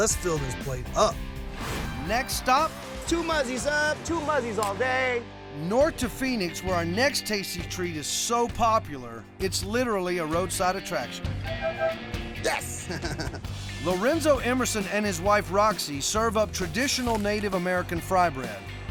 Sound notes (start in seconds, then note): 11.4 honking; 12.6 chuckling